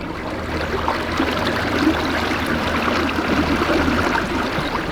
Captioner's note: loud water sounds